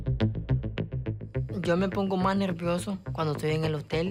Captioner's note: Roman speaking Spanish